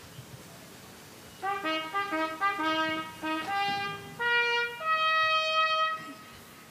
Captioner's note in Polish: Sygnał "Baczność"